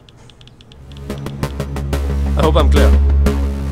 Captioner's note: Sound of typing on a phone's keyboard